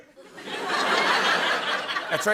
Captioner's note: laughter